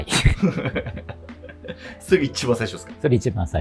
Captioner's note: laughing